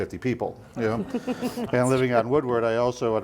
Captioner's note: laughing